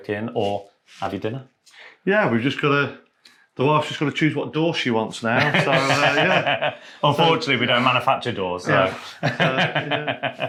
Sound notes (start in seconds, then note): 5.3 all laughing; 8.6 laughing